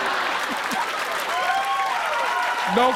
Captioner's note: laughter; cheers and applause